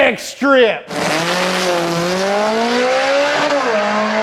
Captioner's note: engine roars